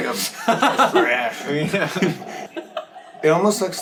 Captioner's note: laughing